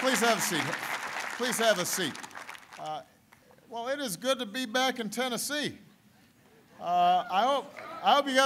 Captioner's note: applause